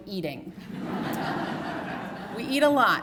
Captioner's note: laughter